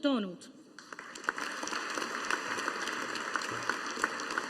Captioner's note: audience applauding